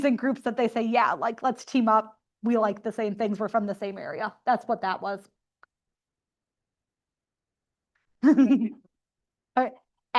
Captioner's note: laughter